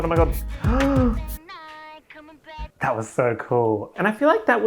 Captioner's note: gasp